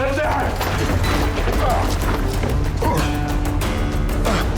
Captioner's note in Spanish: Quejidos